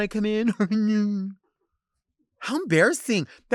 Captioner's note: chuckles sarcastically